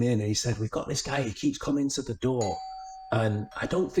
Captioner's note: doorbell dings